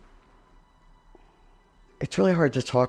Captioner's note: pause